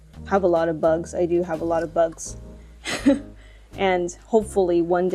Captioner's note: chuckles